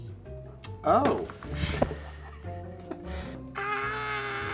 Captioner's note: chuckling